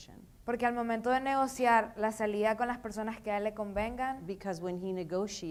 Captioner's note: speaking in foreign language